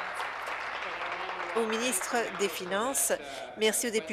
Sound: applause

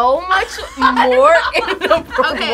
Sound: laughs

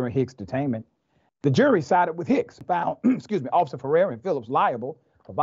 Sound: cough

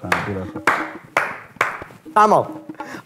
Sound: claps

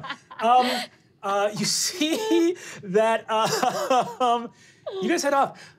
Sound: laughing; laughs

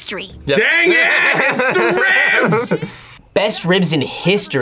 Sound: laughs

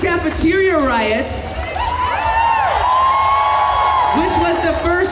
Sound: audience cheers

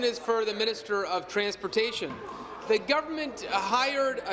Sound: applause

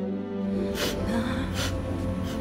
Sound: sniffles

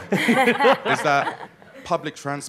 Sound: audience laughing loudly

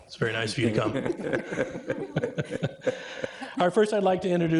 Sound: trustees chuckle

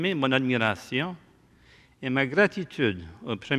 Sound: speaking french

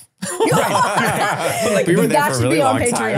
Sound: laughing

